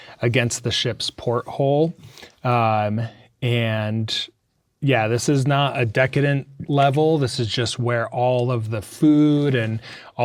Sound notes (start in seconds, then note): none